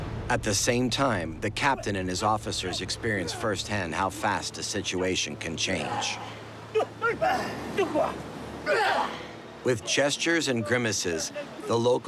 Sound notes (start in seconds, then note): 6.0 makes a battle cry; 6.0 speaking Maori; 8.9 makes a battle cry